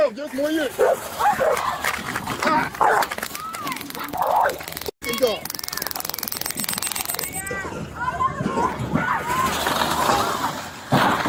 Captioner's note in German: schreien